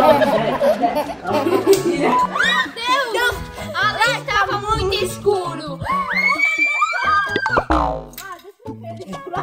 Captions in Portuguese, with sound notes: -Meu Deus! -Meu Deus! Lá tava muito escuro. [gritos] [som de mola]